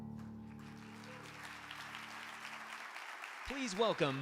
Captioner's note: audience applauding